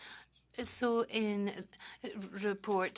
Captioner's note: speaking French